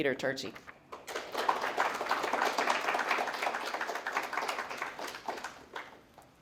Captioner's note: applause